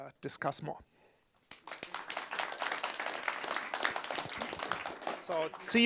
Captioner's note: audience applause